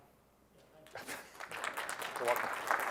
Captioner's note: applause